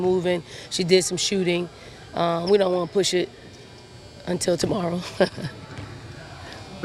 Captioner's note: laughs